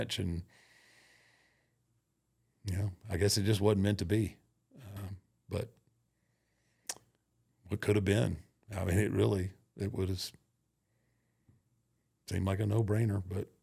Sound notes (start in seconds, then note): 5.8 clicks tongue